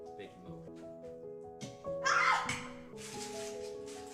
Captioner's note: soft Music; screams; soft Music